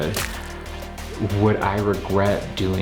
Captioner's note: blood splatter